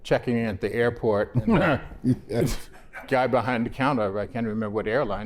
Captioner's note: laughter